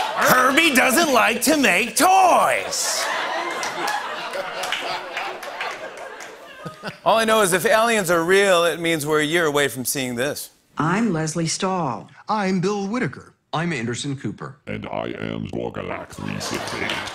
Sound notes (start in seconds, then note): 0.0 laughter and applause; 2.8 laughter